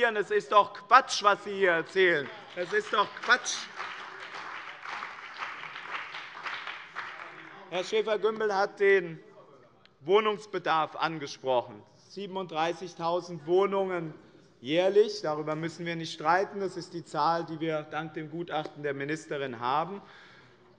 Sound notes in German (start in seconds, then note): 3.9 Beifall bei dem BÜNDNIS 90/DIE GRÜNEN und der CDU